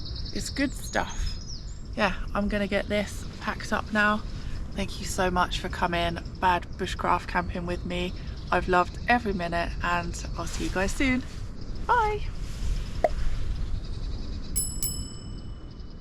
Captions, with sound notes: it's good stuff yeah, I'm gonna get this packed up now thank you so much for coming bad bushcraft camping with me I've loved every minute and I'll see you guys soon bye! *pop*